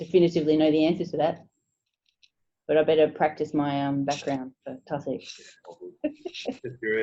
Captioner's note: laughing